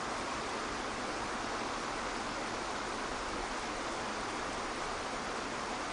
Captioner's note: waterfall water gushing continues